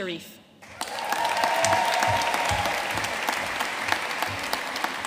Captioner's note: audience cheering and applauding